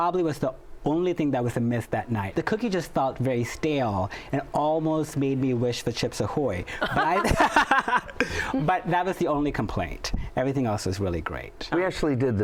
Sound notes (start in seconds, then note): 6.7 laughs